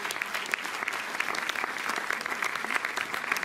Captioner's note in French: Applaudissements